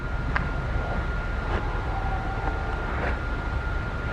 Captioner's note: static animal noise